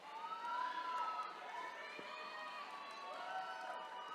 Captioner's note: attendees cheering